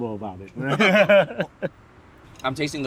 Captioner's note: laughing